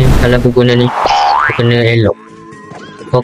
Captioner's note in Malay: Bunyi Sound Effect Kartun Lompat !